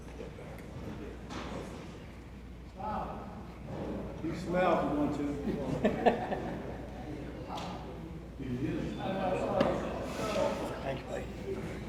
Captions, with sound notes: - Wow! - You can smile if you want to. (person laughs) (people chatter indistinctly) - Thank you, buddy.